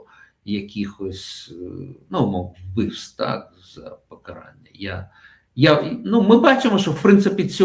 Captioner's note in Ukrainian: сопіння